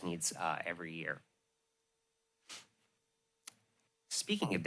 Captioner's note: pause